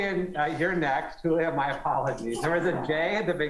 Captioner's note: laughter